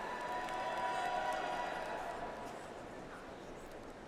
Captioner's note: audience applauds